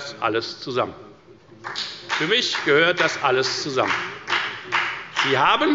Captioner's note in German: Beifall bei der FDP